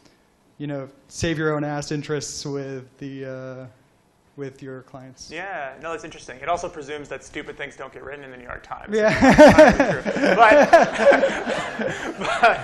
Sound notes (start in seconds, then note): 9.0 laughter